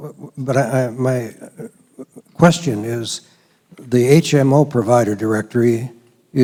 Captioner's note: voiceover